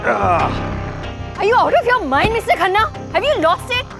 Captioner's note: Karan groans; Car door closes